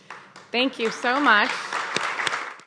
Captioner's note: group claps